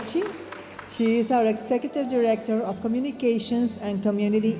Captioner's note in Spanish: hablando en inglés